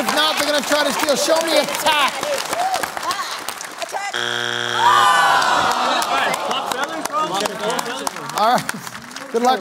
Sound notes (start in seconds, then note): 4.1 buzzer sounds; 7.1 chattering